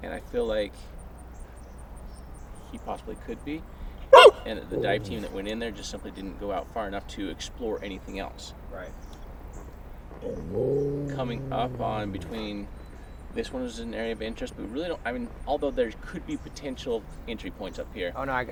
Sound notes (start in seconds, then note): 4.1 dog barking; 10.2 dog growling